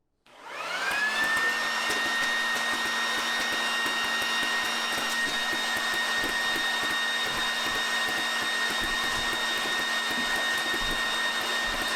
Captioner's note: leaf blower